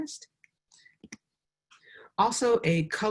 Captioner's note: mouse clicks